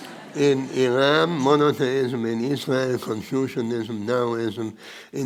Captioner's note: audience laughing